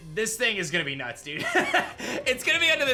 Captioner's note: laughs